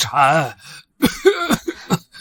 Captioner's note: cough cough